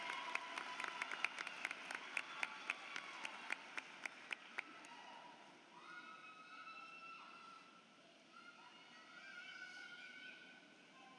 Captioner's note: applause